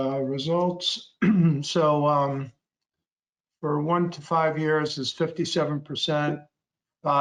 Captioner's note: clearing throat